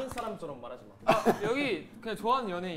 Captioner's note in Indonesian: Hehehehahahahaha